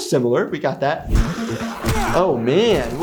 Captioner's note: people grunting; quirky music